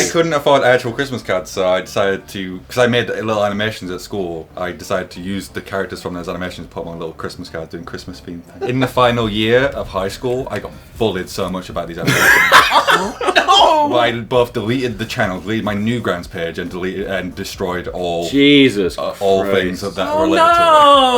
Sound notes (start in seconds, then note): 0.0 laughing; 12.0 laughing